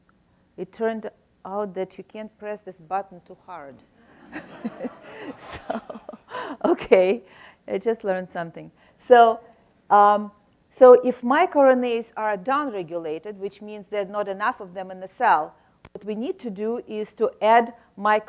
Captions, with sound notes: It turned out that you can't press this button too hard. (laughs) So okay I just learned something. So so if microRNAs are downregulated which means there's not enough of them in the cell what we need to do is to add